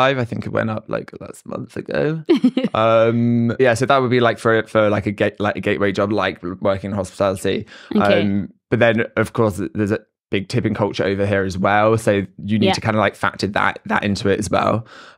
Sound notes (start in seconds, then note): 2.3 laughs